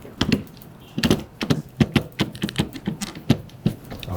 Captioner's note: device clicking